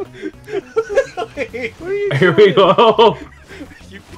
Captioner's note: laughing